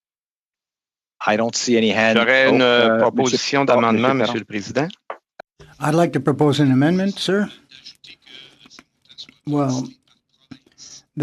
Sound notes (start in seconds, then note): 6.7 speaking French